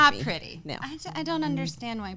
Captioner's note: hums